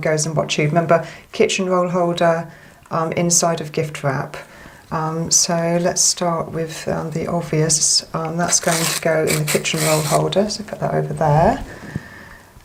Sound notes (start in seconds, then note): none